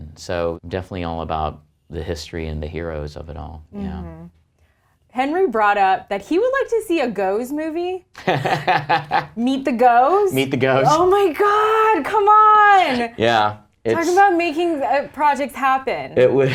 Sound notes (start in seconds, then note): 8.2 laughs